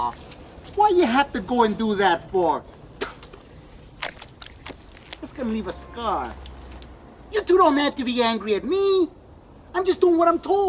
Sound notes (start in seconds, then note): 3.0 spits; 4.9 brain squishes